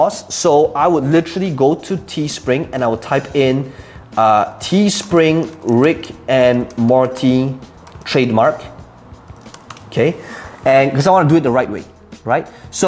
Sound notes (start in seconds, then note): 5.6 clicking keys